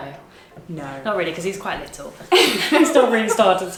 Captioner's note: laughs